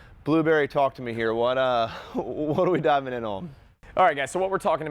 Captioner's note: chuckling